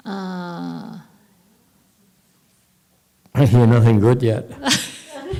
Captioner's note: speaker laughs